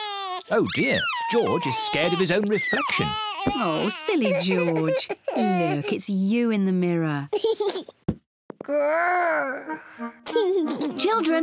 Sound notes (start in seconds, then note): 0.5 sobs; 7.8 giggles; 10.5 giggles